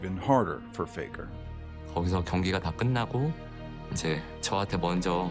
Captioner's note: speaking Korean